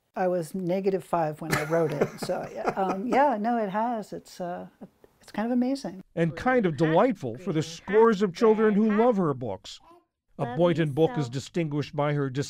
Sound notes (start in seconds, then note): 6.6 voice-over